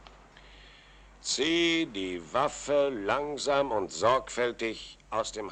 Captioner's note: none